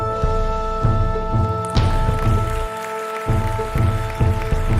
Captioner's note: audience applauds